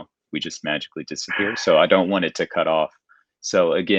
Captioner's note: chuckling